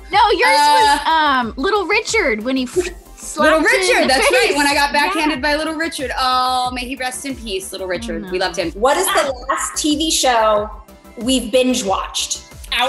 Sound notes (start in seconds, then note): 2.7 whooshes